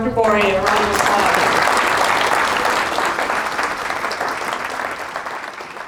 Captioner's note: applause